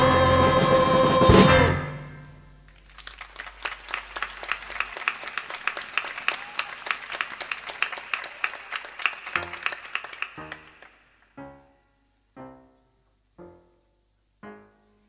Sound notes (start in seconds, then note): 2.6 applause